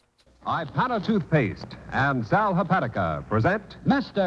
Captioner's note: radio Announcer